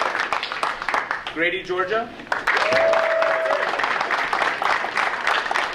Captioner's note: audience cheering; audience cheering